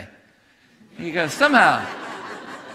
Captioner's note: congregation laughing